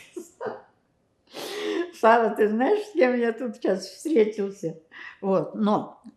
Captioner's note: laughing